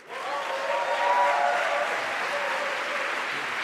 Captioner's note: applause